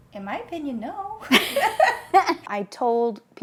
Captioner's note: laughing